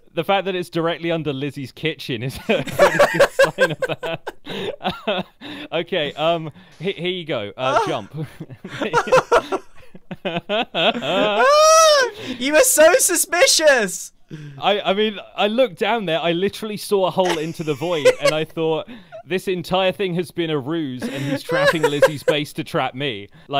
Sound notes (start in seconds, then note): 2.4 laughs; 7.6 laugh